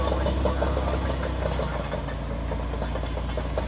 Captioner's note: clatter of a bulldozer running